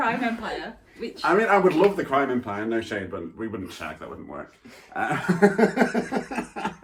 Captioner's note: laughter